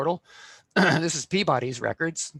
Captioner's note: throat clearing